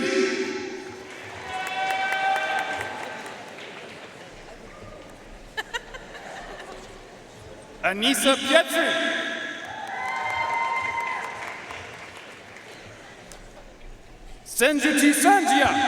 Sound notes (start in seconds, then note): 0.8 audience cheering and applauding; 4.6 audience chattering and laughing off microphone; 9.1 audience cheering and applauding